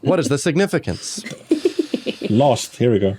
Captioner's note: giggles